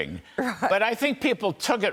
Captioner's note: laughter